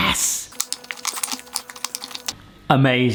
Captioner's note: mould crackles